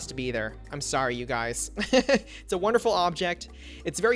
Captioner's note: laughs